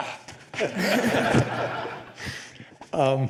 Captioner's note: laughter